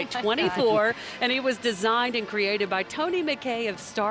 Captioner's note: laughing